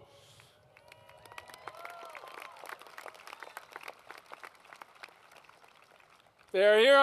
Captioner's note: applause